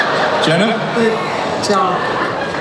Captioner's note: voiceover